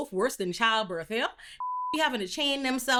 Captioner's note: beep